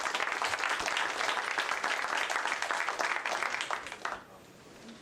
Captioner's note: applause